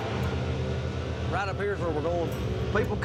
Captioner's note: engine revving